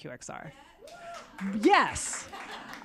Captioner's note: muted applause